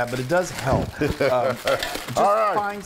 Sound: laugh

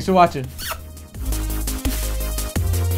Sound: kissing sound; electronic music

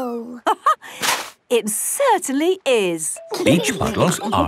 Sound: laughing

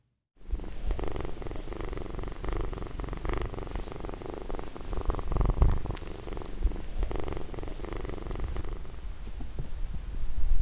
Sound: purr

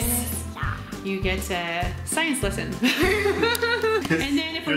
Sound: laughing

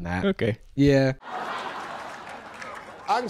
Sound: crowd laughing; chuckles

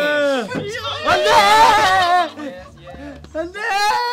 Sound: members laugh

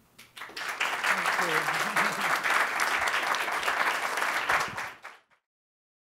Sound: applause

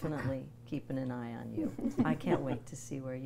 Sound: everyone laughs

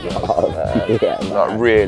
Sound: men chuckling

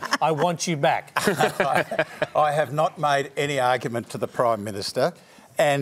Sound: laughs

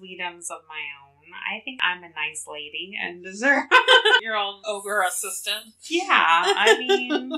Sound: laughs

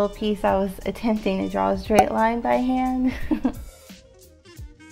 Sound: chuckles

